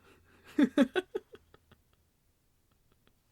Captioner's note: laughs in his own amusement